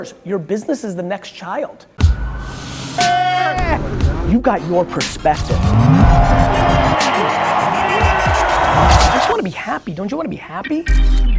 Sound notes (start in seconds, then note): 3.0 cheering; 3.5 upbeat music; 6.6 crowd cheering